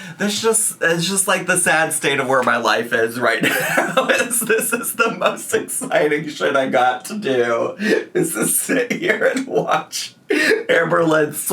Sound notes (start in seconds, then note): 3.4 laughing